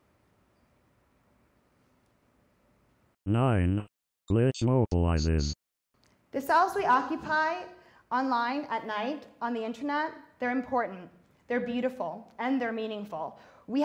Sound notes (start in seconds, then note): 3.4 robot Voice